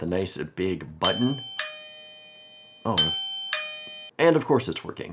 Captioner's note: doorbell ringing